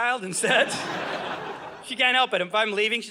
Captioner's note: audience laughing